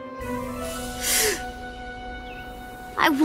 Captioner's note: all gasp